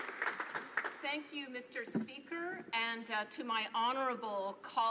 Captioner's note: applause